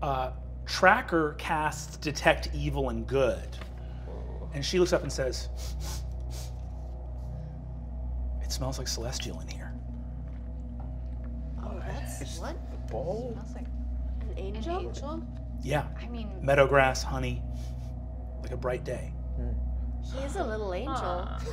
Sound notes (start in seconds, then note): 5.5 sniffing; 10.0 bass tone continues; 17.6 sniffing